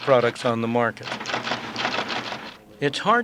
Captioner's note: typing sounds